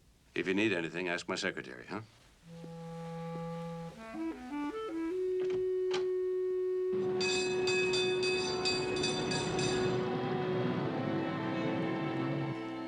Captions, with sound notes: If you need anything, ask my secretary, huh? [bell ringing]